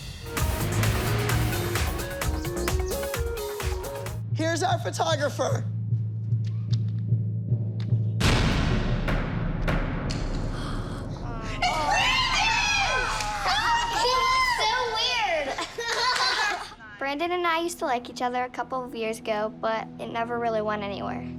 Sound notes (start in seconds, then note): 5.6 suspenseful music; 15.5 laughter